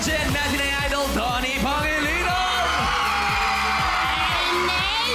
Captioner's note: audience cheering